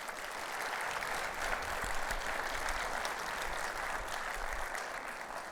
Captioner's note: audience applauding